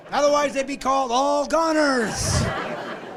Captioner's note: laughing